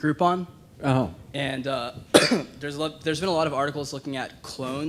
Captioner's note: coughs